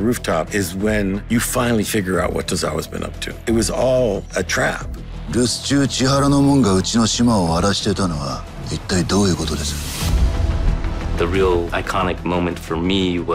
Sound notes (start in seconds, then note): 4.8 speaking in japanese